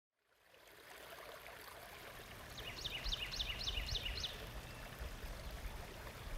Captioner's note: water gurgling; birds chirping